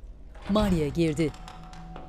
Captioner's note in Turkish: Kapı açılma sesi